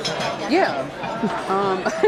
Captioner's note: laughs